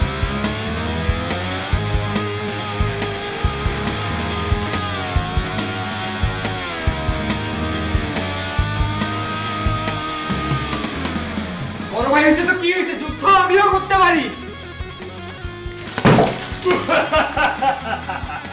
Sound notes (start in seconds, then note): 15.7 bowl splashes water on head; 16.6 Basic's evil laughter